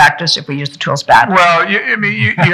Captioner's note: people laughing